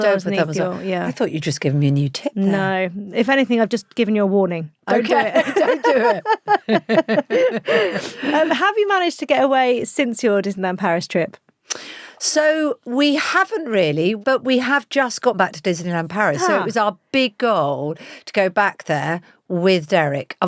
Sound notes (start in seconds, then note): 6.5 both laughing